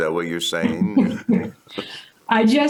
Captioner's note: laughs